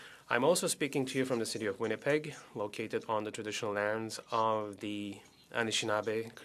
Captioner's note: speaking French